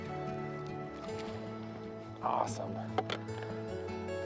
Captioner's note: bright acoustic music; water splashing; bright acoustic music